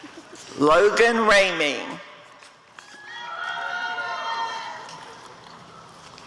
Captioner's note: applause and cheering